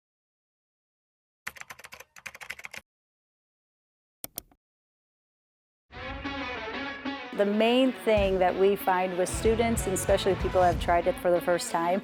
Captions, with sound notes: (keyboard clicking) (mouse clicking) (energetic music) The main thing that we find with students, and especially people have tried it for the first time,